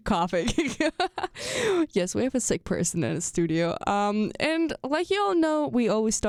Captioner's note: laughs